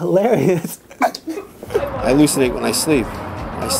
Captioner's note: laughter